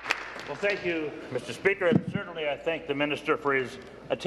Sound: applause

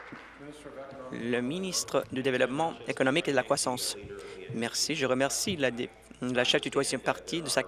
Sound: applause

